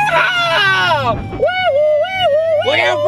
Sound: sirens

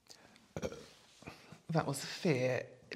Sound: burp of fear

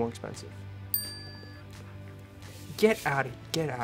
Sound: bell dings

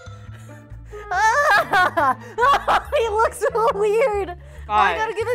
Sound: laughs

